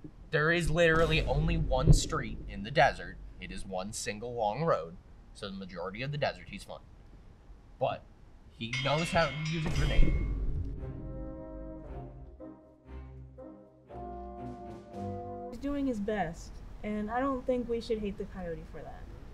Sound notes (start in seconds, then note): 8.6 bell rings